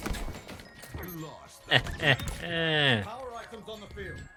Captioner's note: cheeky laugh